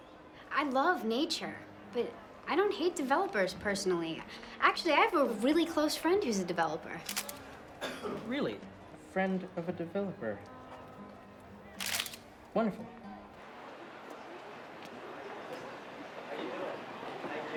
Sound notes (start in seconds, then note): 7.0 camera clicks; 11.8 camera clicks